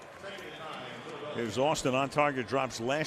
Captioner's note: pa announcement